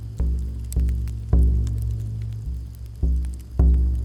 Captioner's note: dramatic music; fire crackling; dramatic music